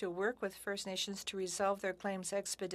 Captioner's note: speaking french